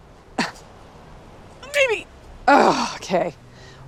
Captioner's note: straining